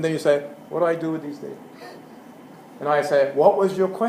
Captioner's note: laugh